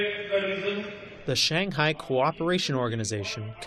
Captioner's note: through translator